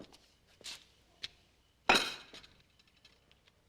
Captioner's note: slams down plate